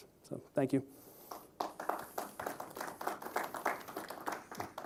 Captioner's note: applause